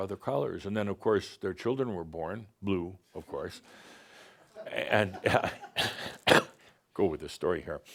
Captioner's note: some chuckles